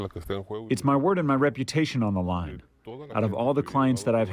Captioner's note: through translator